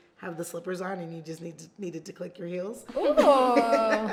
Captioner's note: laughs